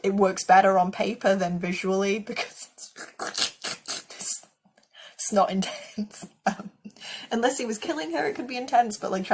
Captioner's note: sucking sounds